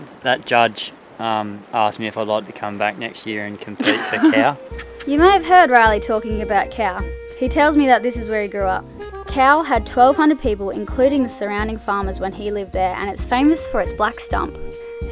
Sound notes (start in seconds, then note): 0.0 imitating judge; 3.8 laughs